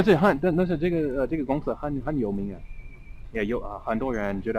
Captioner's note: mandarin